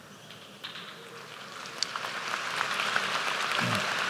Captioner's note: applause